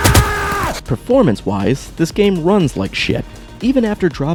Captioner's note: pew pew pew pew pew